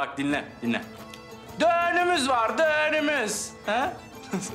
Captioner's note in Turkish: Şiveli Söylüyor